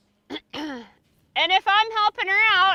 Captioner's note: clears throat